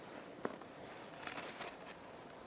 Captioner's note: cutting noises